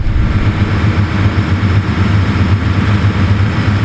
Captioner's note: motor rumbling